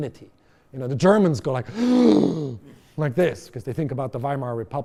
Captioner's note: gasp